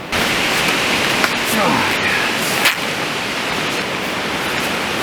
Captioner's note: rip